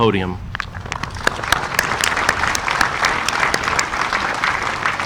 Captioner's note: audience applauding